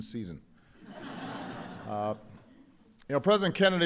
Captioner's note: laughter